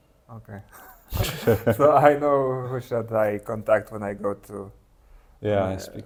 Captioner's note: laughing